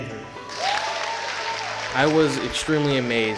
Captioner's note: applause